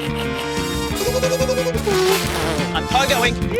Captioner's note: revs engine; sputters; inhales noisily